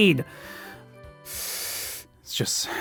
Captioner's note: inhales sharply